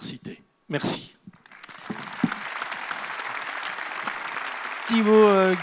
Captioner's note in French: Applaudissements